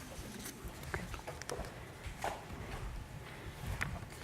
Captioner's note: audience chatters